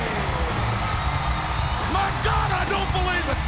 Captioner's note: audience cheering and clapping